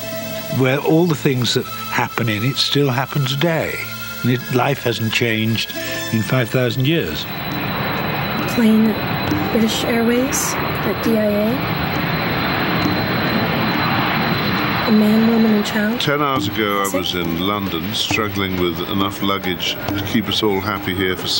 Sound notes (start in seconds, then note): 6.8 plane taxi on runway